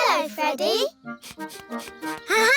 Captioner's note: sniffs